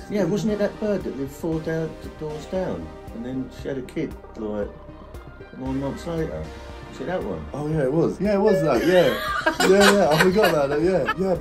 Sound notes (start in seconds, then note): 8.6 father laughing